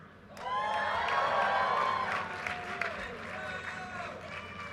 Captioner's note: audience cheers and applause